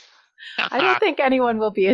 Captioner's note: laughing